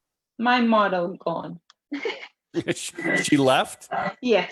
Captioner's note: laughs